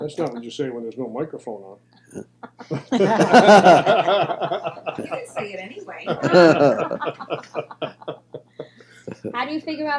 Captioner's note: all laugh